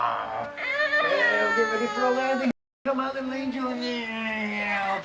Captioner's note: baby crying